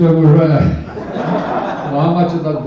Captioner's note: laughter